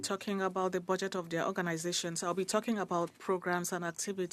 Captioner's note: speaking French